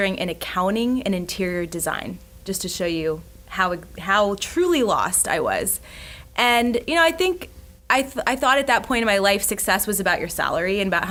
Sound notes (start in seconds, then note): none